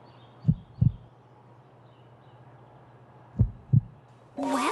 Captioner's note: very slow heart beat